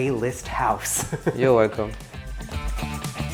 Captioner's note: chuckling; upbeat music